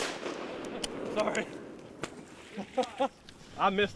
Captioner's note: rifles bang repeatedly; laughs